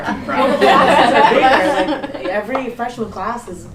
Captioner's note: laughing